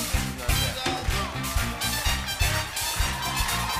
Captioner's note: cheers and applause